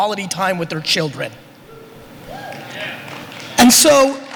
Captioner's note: applause